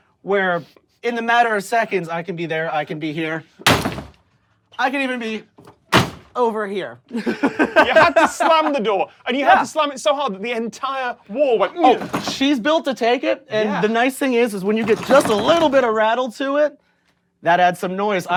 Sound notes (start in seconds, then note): 3.6 loud slam